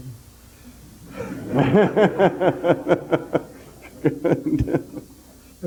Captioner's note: general laughter